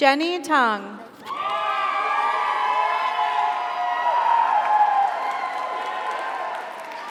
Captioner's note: audience cheers; audience applauds